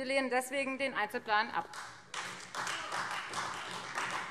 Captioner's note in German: Beifall Freie Demokraten